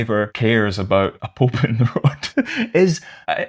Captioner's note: laughter